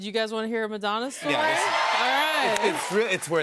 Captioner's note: cheers and applause